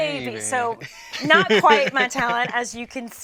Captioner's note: laughs